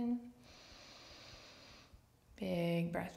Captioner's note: deep inward breath